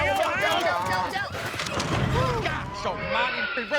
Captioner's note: clamoring, crashing